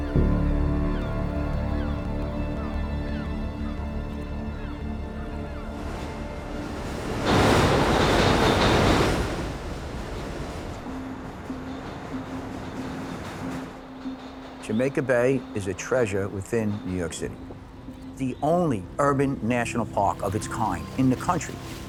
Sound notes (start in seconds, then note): 0.0 intense music; 0.0 birds cawing; 0.2 intense music; 7.7 train rushing; 11.5 intense music